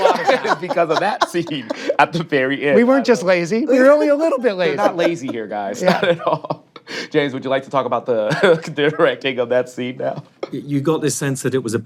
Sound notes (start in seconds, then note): 3.8 laughing; 8.2 laughs